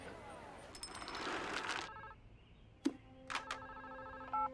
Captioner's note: phone ringing